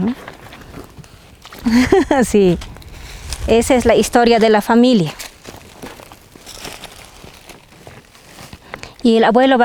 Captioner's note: laughs